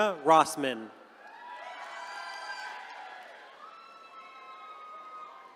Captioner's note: attendees cheering